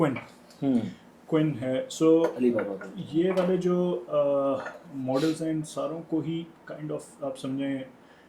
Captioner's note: clearing throat